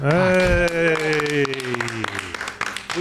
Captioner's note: round of applause